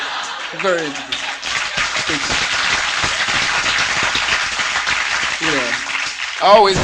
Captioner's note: laughter and Applause